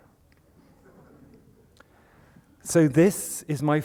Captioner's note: laughter